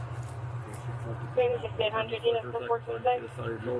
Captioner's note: radio chatter